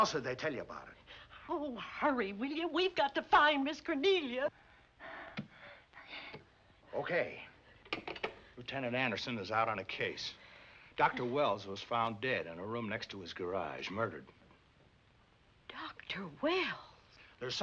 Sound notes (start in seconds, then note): none